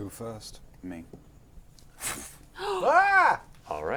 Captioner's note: whoosh; screams